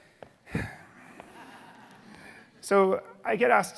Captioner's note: audience laughing